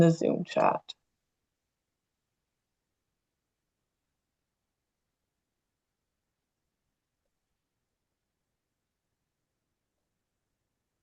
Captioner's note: pause